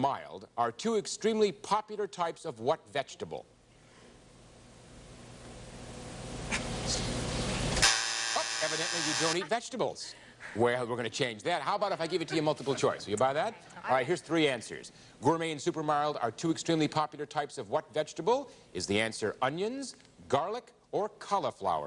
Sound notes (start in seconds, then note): 7.8 buzzer sounds